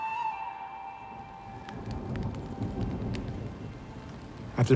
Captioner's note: rain and thunder